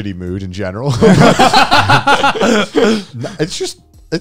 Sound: all laughing

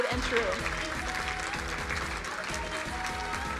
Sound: crowd applauding

